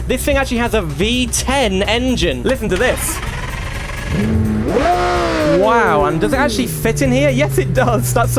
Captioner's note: engine Noise